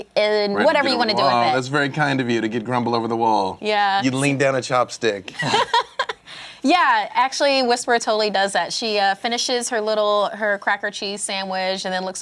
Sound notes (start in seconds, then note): 5.4 laughs